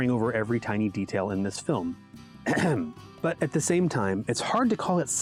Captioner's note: ahem